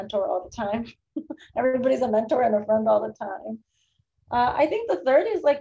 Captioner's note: laughs